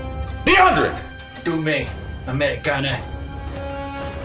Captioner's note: officer speaking German